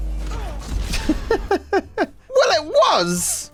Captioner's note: laughs